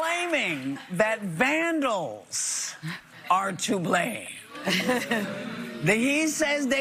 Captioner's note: applause